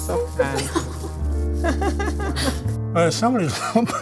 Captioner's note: laugh